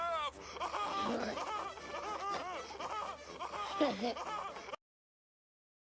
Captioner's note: giggling; laughter